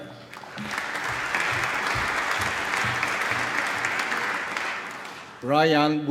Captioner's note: applause